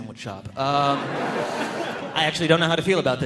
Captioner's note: audience laughing